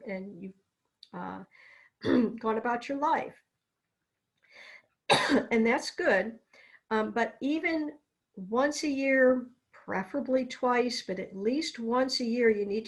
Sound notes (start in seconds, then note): 2.0 clears throat; 5.1 coughs